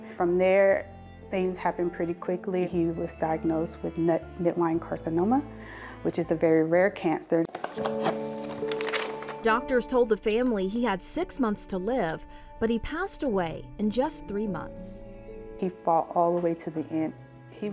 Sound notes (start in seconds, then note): 7.7 trunk opening